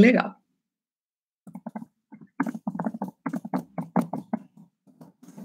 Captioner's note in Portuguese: som de digitação